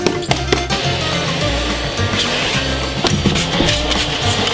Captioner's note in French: Aspirateur